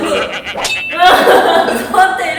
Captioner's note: cursing